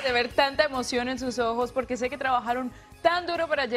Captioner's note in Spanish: aplausos